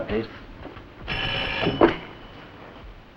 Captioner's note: phone rings